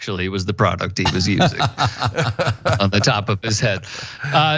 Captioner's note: laugh